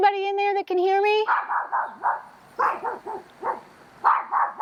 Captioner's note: dogs barking